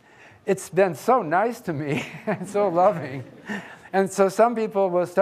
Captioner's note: laughs